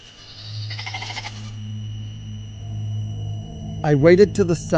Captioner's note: goat bleating